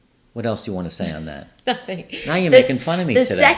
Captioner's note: laughs